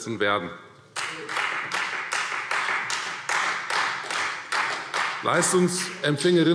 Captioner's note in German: Beifall Freie Demokraten